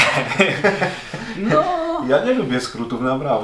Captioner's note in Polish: śmiech